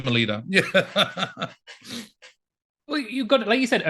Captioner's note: laughing